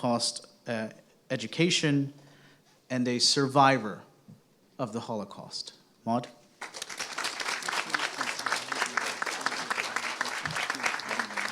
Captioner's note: applause